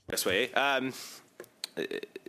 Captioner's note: speaking French